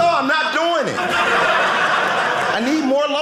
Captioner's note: audience laughing